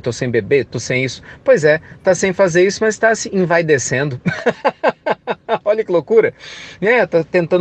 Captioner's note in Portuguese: Risos